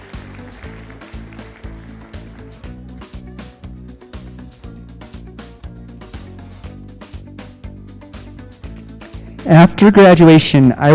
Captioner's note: applause